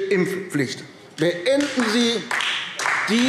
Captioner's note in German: Beifall AfD